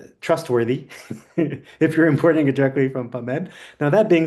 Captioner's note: chuckles